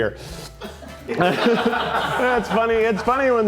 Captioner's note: crew laughing